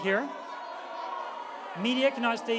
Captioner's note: booing, shouting